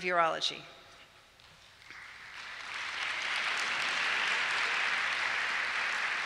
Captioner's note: applause